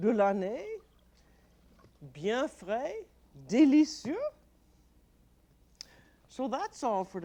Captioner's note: speaking French